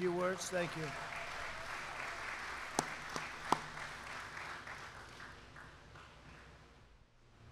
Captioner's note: applause